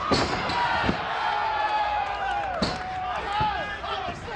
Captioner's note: audience cheers